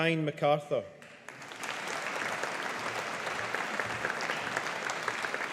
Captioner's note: audience applauding